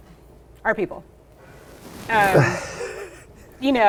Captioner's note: laughing